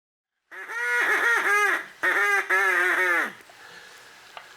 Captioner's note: Julia quacks on duck call